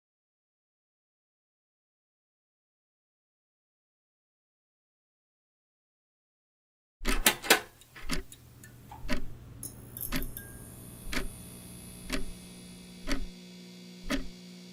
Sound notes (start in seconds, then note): 6.9 clock ticking begins